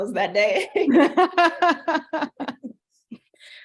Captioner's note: laughing